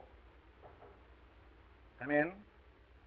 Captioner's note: knocking on door